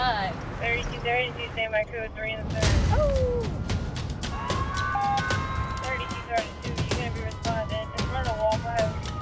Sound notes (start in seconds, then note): 4.2 sirens wailing; 4.3 beeping